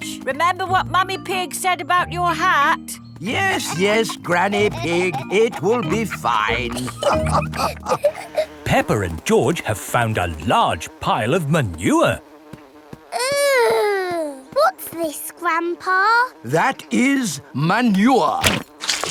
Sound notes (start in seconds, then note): 7.2 all laughing